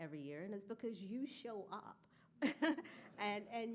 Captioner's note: laughing